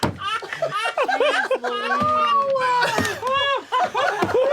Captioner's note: laughter